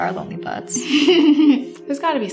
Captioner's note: Esther laughs